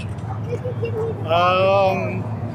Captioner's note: giggling